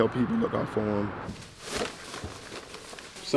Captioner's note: plastic rustling